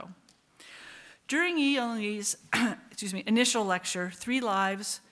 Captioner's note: coughs